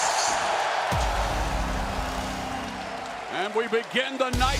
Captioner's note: crowd cheering